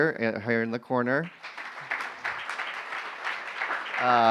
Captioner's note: applause